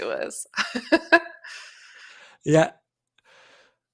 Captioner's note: laughs